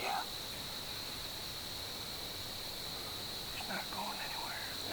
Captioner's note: insects